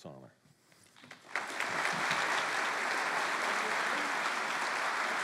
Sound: applause

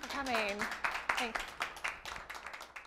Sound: audience applauding

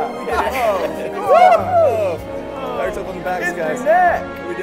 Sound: team hoots and hollers

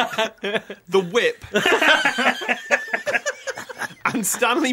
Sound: laughter

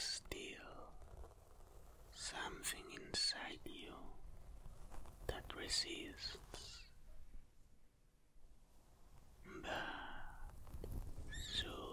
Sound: sigh

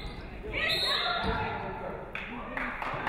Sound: referee whistles; audience clapping

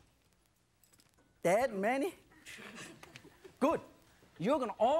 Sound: laughs

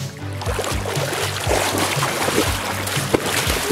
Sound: water splashes

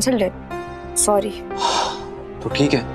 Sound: exhaling

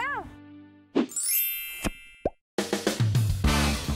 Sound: chime; upbeat music

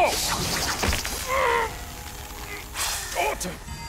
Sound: grunting

